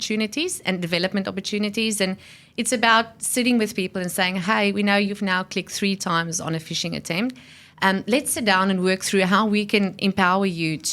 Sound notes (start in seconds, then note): none